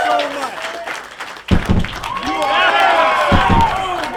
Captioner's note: loud distant booms